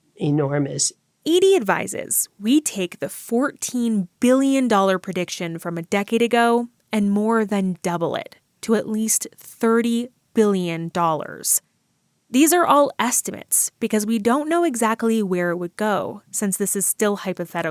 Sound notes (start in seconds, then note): none